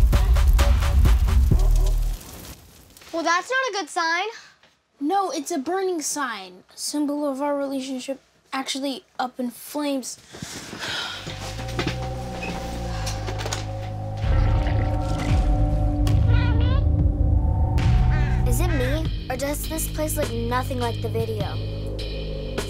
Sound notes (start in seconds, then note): 0.0 crashing to ground; 0.0 fire crackling; 10.4 sad sigh; 14.5 ominous music; 16.3 doll saying "mommy"